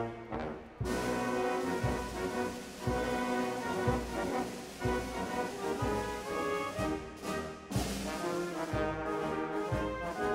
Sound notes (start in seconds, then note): none